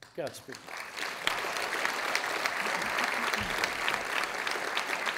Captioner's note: audience applauding